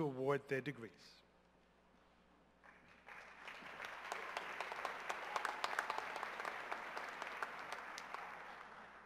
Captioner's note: cheers and applause